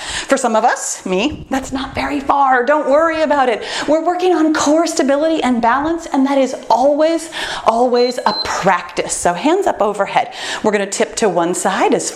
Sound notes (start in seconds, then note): 7.9 timer beeps